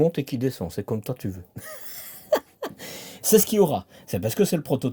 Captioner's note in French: rires